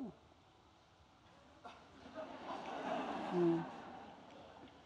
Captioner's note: chuckles